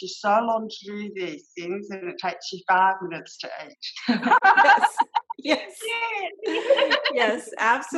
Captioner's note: laughter